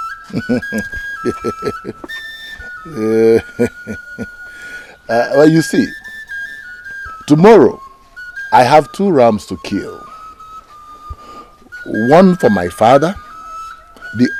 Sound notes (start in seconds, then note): 0.3 laughter